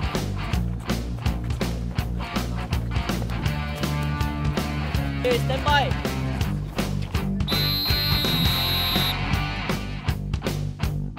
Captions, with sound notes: Okay! Standby! (whistle)